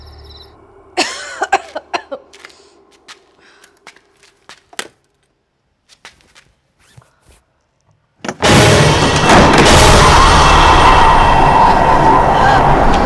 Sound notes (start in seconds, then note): 0.9 coughing; 1.6 footsteps; 8.6 window opening; 10.9 wind blowing